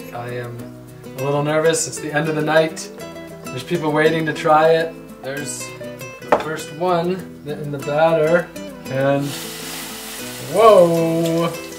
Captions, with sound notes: I am a little nervous, it's the end of the night, there's people waiting to try it. There's the first one in the batter, and... (sizzling) Whoa!